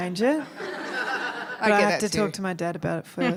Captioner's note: laughter